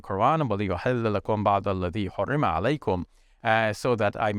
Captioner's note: speaking in Arabic